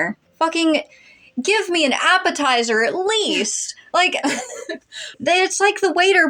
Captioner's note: laugh